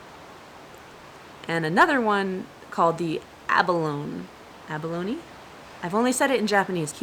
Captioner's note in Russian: пытается произнести по-английски